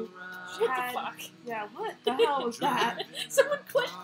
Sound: laughter

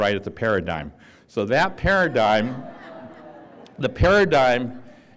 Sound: laughter

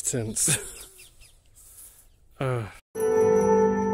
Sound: sigh

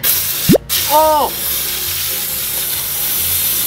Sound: button clacking; silly string hissing; laughing

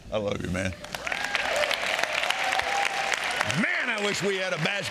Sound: audience cheering and applauding

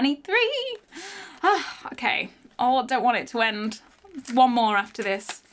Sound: sighs

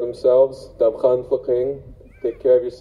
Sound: speaks Haida

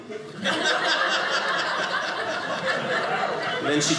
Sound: audience laughing

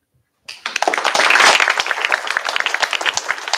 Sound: applause

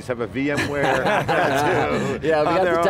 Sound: laughs

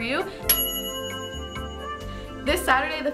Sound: bell dinging

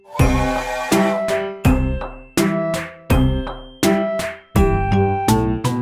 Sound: bright percussion music; train whistles

